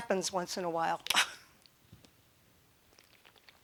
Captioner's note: chuckling